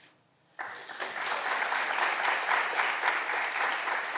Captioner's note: clapping continues